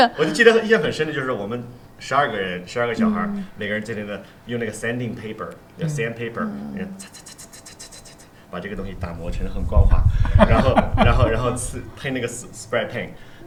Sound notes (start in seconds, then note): 8.8 scraping sound